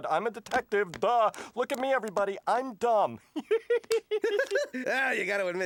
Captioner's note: laughs